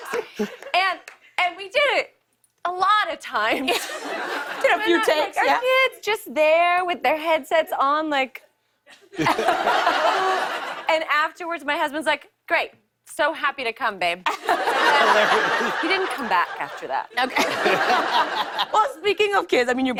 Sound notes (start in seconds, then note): 8.9 laughter; 14.2 laughter